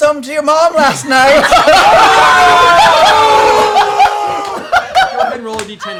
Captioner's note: laughing and jeering